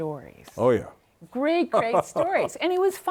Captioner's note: laughs